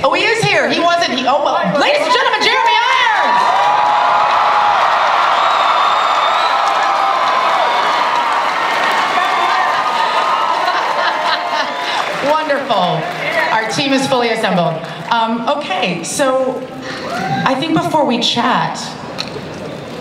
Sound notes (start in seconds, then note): 3.5 audience cheering and applause